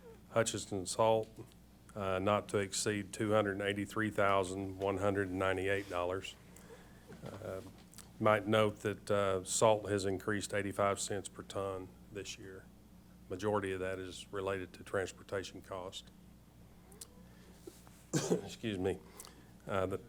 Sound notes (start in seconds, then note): 18.1 coughs